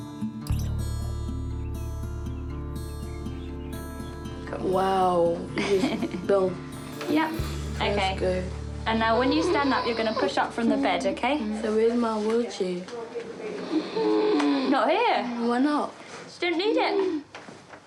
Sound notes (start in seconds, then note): 5.5 chuckles; 13.3 inhales raspily